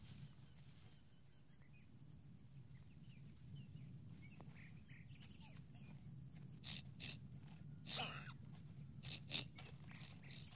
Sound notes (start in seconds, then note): 7.2 Kiog snorting